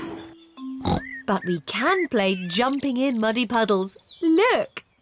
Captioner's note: oinks